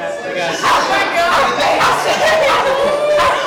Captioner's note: dog barking